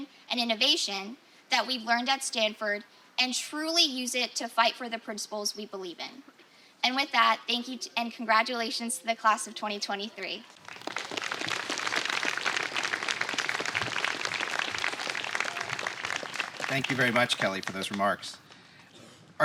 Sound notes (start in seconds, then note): 10.5 applause